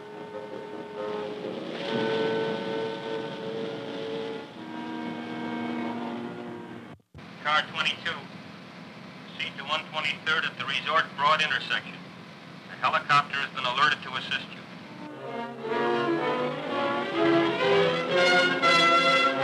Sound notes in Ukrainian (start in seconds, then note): 10.2 Голос за кадром